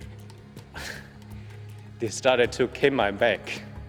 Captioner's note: sighs